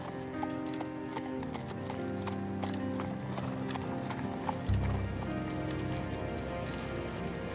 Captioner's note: horse trotting to stables